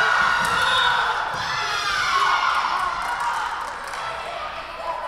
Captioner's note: whistle blowing